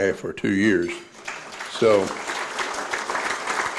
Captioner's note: audience applauds